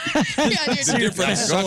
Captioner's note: laughing